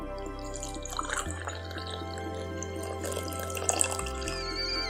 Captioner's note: coffee pouring; kettle whistling